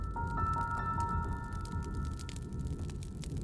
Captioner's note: fire crackles